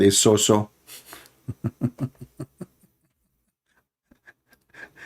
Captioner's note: Ketawa